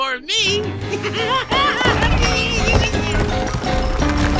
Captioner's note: giggling